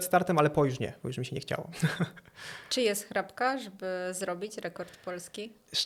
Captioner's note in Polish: śmiech